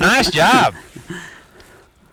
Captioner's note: laughter